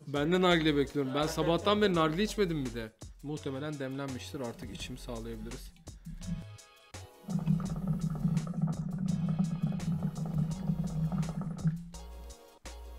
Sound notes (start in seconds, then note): 7.1 hookah sound